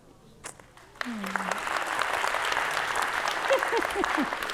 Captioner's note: audience clapping